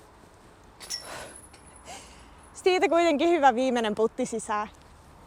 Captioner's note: sigh of relief